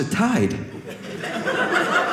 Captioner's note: audience laughing